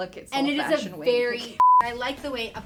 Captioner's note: beep